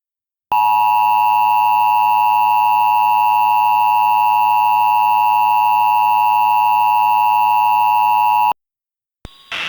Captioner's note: dual tone 853 hz and 960 hz attention tone